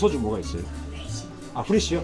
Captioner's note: whispering